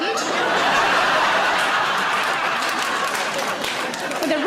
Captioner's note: audience laughing; audience applauding